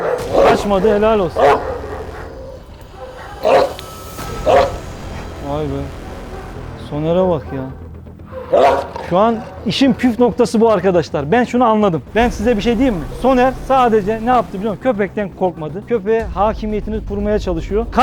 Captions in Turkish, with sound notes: - Kaçmadı. Helal olsun. (Havlama sesi ve Tansiyon müzik) - Vay be! Soner'e bak! - İşin püf noktası bu arkadaşlar. - Ben şunu anladım. Ben size bir şey diyeyim mi? - Soner ne yaptı biliyor musunuz? - Köpekten korkmadı. Köpeğe hakimiyet kurmaya çalışıyor.